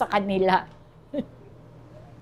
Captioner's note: giggles